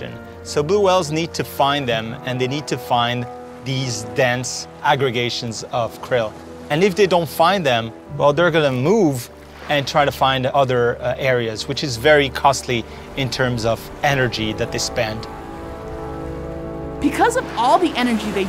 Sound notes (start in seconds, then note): 15.1 blow hole splash